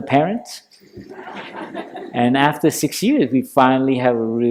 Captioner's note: laughter